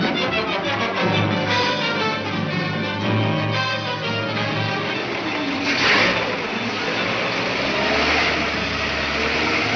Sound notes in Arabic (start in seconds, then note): 1.0 محركات تدور